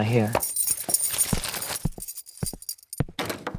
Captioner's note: keys jingle